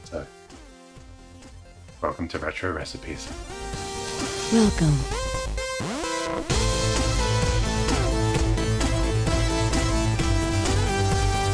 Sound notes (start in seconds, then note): 4.3 upbeat music; 4.8 robotic Voice